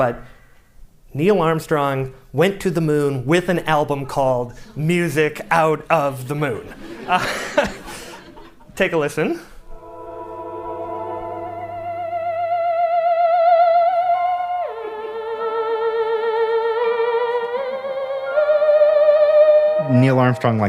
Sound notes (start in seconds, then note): 6.5 laughter; 9.0 laughs